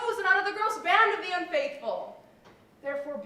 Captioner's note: none